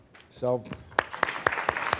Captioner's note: applause